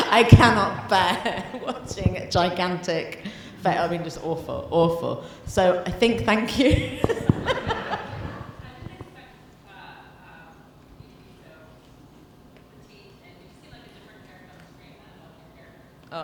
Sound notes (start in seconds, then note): 6.0 laughs